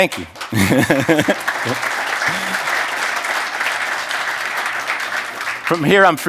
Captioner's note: applause